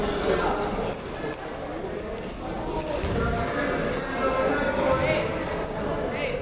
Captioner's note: people talking in the crowd